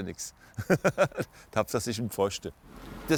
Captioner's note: laughs